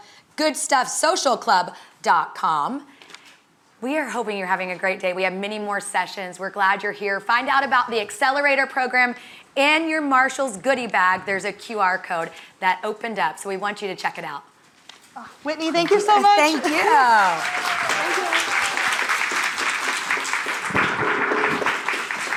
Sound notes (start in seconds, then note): 17.4 audience applauding